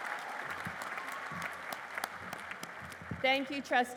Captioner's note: applause